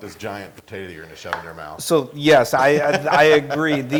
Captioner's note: laugh